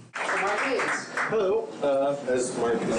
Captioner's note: group applauding